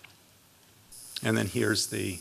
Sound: buzzing

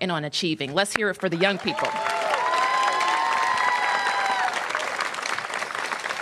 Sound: applause

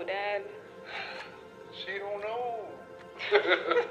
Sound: sighs; parents laughing

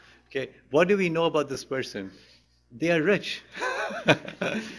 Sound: laughter; laughs

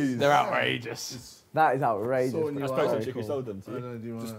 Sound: group chattering

